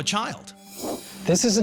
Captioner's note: whoosh